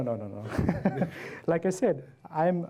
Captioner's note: laugh